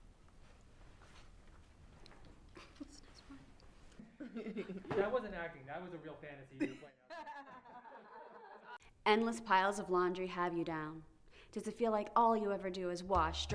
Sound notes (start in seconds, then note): 0.2 whispering; 6.6 all laugh